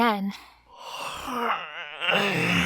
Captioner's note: yawn